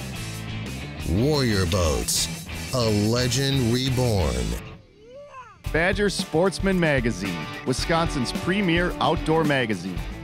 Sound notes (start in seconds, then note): 5.9 voiceover